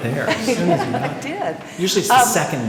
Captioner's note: laughter